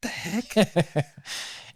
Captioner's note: laughing